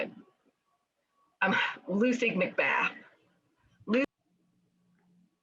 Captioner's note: sighs; audio stops